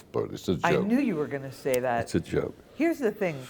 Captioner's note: sound of cigarette lighter